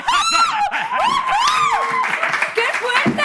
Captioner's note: applause